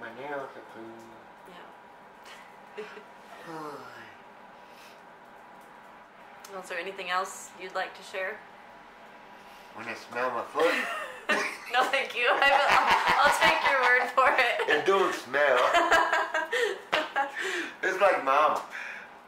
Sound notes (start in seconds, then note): 3.8 laughs; 10.6 laughter